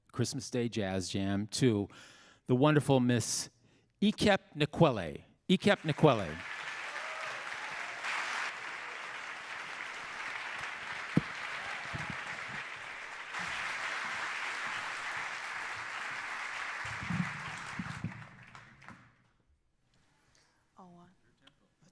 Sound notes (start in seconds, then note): 6.2 audience applauding; 7.1 audience cheering